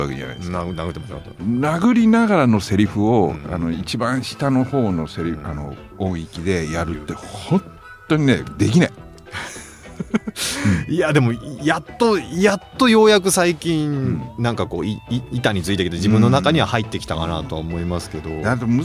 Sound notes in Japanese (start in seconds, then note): 9.2 笑い